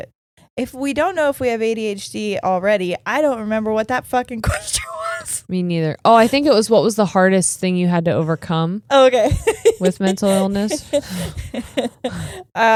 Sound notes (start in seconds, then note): 9.2 giggling